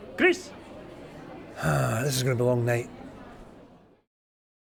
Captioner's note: sighs